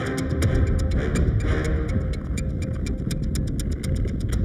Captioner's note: ground rumbling